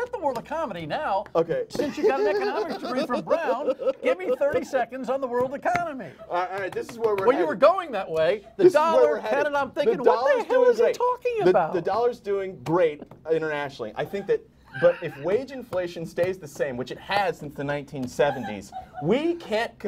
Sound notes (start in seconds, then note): 10.2 laughter